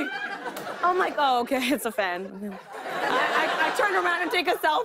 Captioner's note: laughter